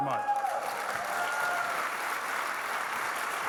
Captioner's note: audience clapping